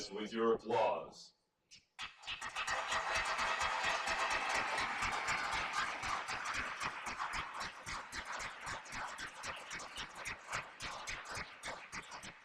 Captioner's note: applause